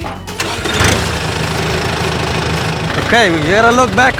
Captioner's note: engine rumbles